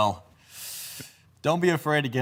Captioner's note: deep breath in